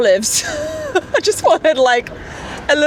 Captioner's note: laughs